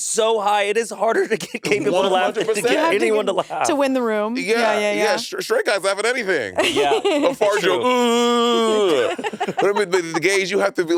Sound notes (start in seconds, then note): 3.6 laughing; 6.6 laughing; 8.4 Monét mimicking straight guy laughter; 9.9 laughing